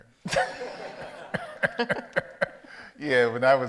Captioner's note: audience laughs